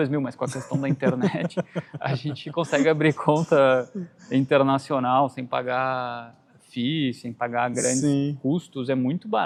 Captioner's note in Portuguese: risadas